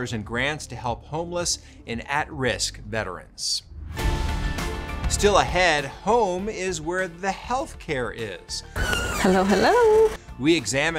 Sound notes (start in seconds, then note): 3.7 exciting music; 8.7 screen screeching